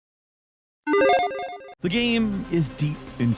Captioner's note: arcade tone